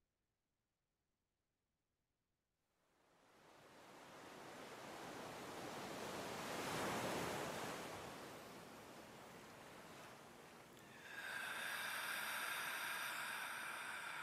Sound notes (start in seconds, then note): 5.3 sea waves crashing; 10.7 deep breathing